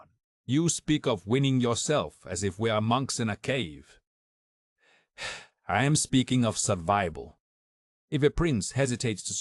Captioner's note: sigh